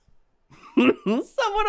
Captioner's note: chuckle